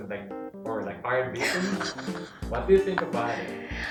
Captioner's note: laughter